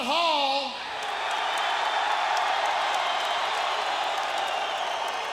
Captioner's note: audience cheering